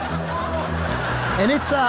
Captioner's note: audience laughs